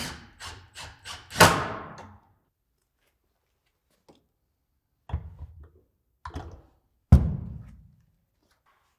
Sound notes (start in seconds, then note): 0.0 drill rasping; 5.2 metal thudding